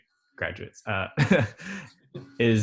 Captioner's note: laughs